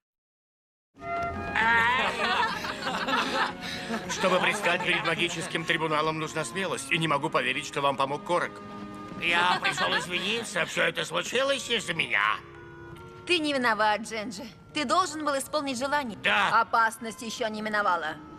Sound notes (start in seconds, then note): 1.6 cheering